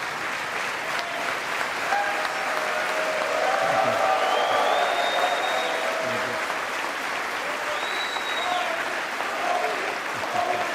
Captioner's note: applause